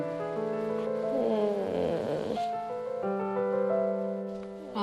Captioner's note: she starts to moan